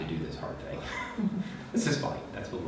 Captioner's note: laughing